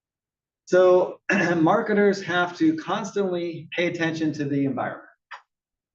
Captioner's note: cough